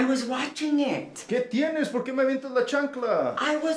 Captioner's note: Spanish